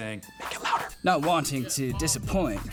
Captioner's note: whispers